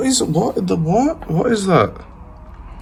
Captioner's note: mumbles